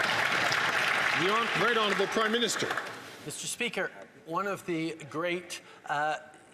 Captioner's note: some Applause